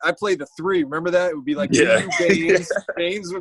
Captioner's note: laughs